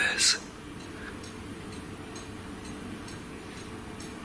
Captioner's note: clock ticking